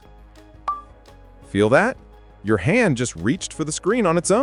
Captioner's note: notification sound